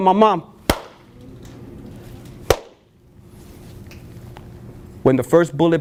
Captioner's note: two claps, silence